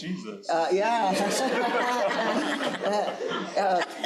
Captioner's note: crowd laughing